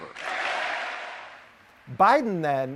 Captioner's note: applause